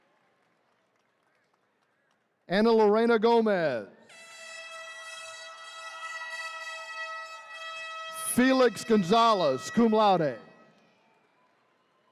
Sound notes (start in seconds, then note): 4.1 horn blaring; 4.4 attendees cheering